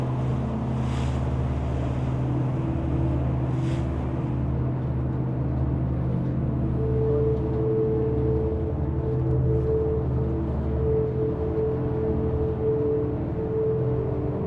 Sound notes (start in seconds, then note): 0.0 waves softly crash